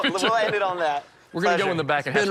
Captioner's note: both laugh